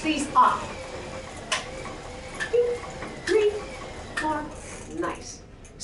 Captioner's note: switches flipping